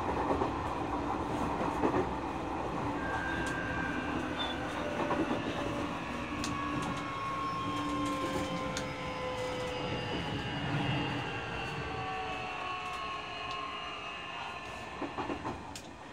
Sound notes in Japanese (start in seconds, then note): 2.9 減速音